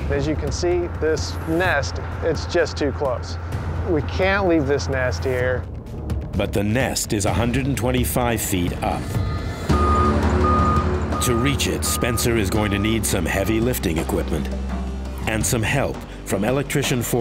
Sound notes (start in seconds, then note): 8.8 truck beeping